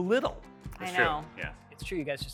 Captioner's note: group responds